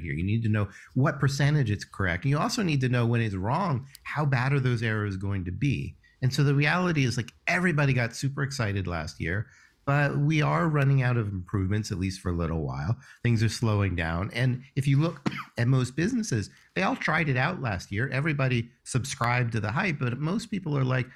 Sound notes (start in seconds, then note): 15.1 coughing